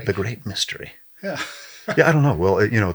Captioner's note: laughs